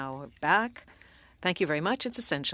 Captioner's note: speaking French